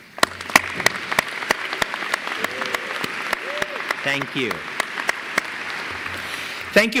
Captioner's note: applause